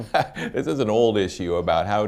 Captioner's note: laughs